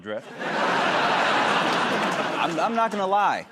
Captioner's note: laughter